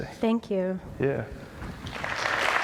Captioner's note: applause